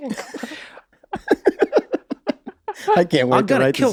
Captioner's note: laughs